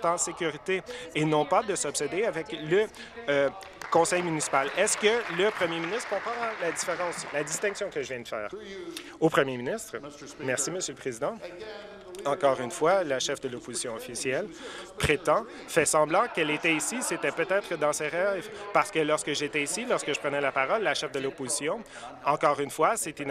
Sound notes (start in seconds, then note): 7.1 applause